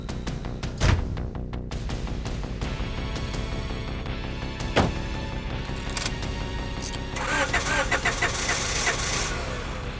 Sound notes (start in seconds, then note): 0.8 door slams shut; 7.1 car engine sputters